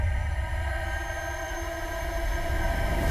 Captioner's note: ghostly sounds